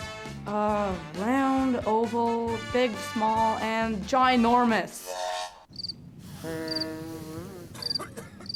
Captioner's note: buzz, cough, fart sounds, crickets, silence